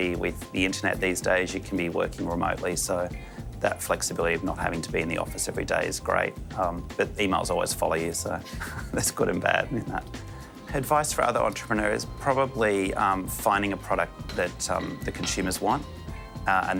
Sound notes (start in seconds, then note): 8.6 laughs